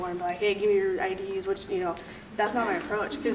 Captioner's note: laughing